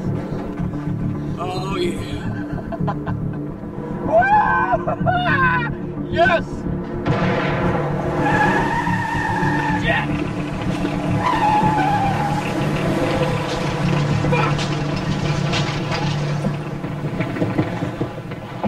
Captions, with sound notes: Oh, yeah. ( Laughing ) Whoo! Yes! ( Bang ) Shit! ( Squealing ) Fuck!